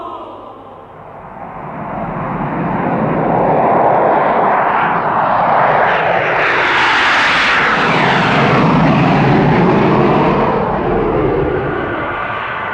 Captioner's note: engines roar